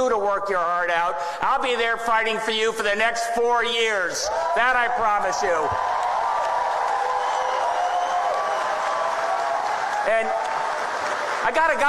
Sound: applause

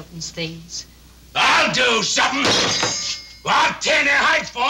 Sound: hand thudding

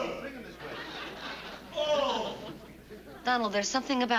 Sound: moaning

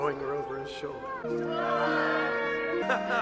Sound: crowd; Arthur laughs

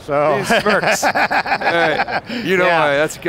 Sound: laughing

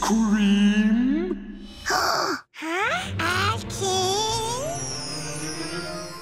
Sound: gasping

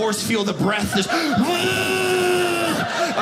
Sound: dramatically exhaling

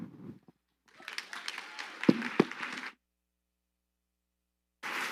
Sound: audience applauding

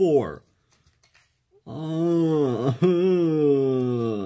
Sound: overwhelmed exclaimation

